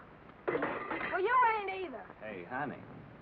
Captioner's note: pot clangs